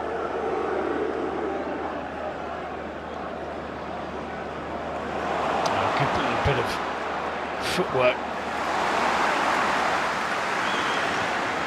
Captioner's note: audience oohs